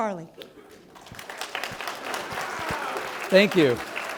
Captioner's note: applause